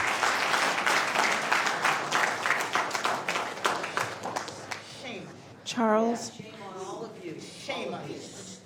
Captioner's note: applause